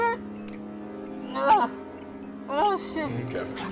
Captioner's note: the sound of spurs